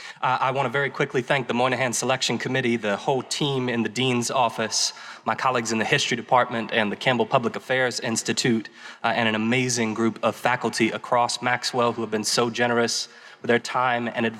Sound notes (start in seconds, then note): none